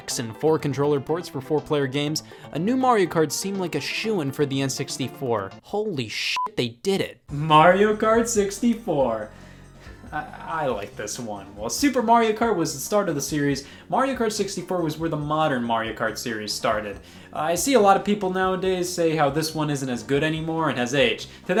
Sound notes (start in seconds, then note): 6.3 beep